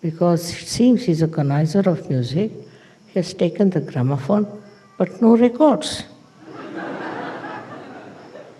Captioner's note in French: rires